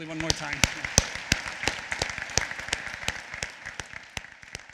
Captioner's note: applause